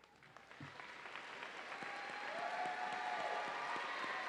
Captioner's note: audience cheering